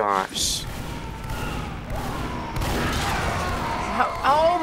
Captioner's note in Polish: strzelanie i słabnący krzyk